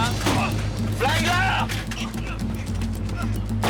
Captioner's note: chuckles